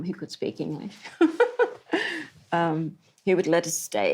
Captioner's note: laughs